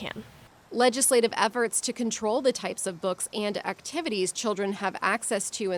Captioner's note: voice-over